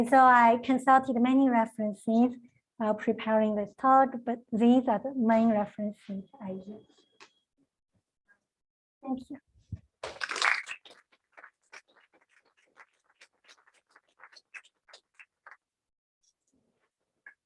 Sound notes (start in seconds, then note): 10.0 applause